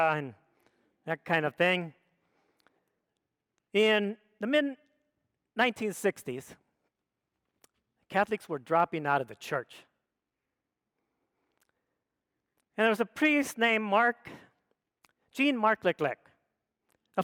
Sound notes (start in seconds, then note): none